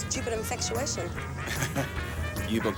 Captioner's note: Graham chuckles